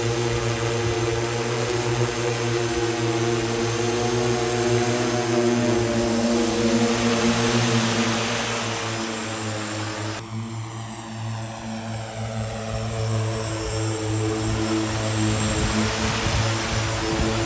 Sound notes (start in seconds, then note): 15.1 motors hum